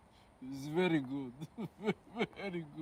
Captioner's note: george chuckles